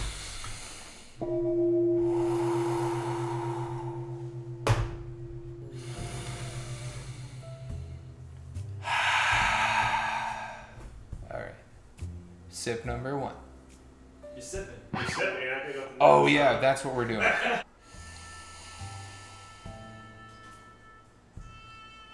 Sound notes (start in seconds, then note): 0.3 deep breathing; 1.2 gong; 8.8 loud exhale; 17.2 laughs off camera; 17.8 loud inhale